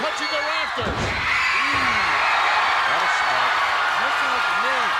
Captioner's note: audience cheering